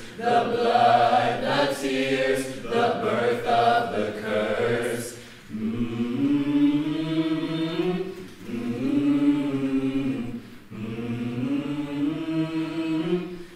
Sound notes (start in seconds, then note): 5.5 characters humming